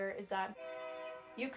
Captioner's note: SFX: Train Horn